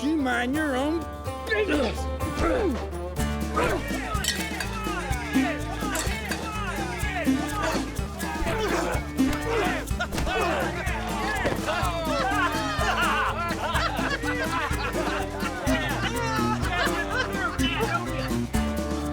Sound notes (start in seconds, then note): 3.2 grunting, men shouting; 9.5 laughter